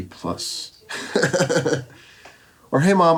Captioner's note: laughs